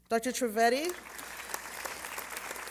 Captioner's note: applause